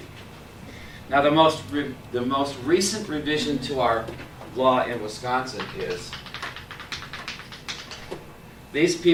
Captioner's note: chalk tapping